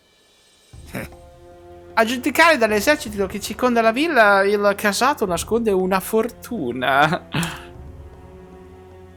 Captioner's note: eheheh; eheheh